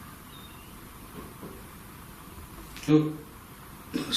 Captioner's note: light tapping